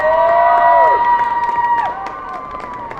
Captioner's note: applause